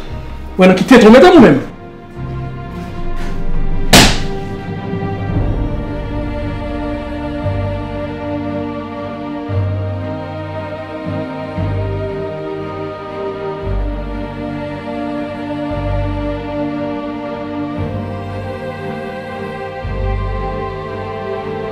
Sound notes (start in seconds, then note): 3.9 slaps wall